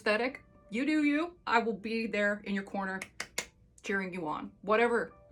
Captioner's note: clapping